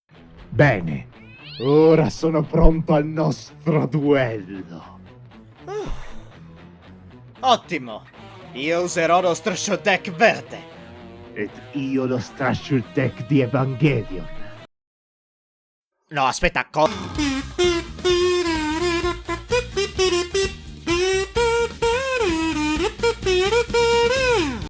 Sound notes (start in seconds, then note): 5.6 sighs in relief